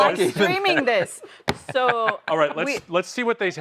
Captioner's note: laughter